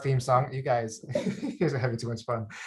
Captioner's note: laughs